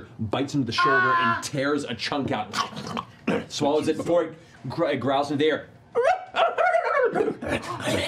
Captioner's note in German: jammerndes Heulen